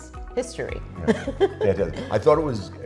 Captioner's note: laughing